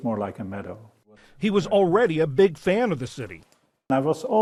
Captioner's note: voice-over